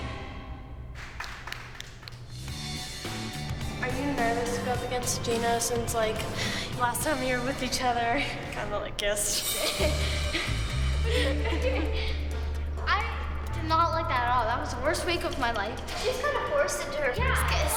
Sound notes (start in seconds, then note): 11.0 laughter